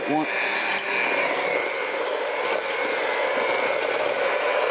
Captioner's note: hand mixer whirring